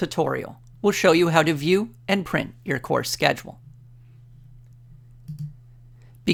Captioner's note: click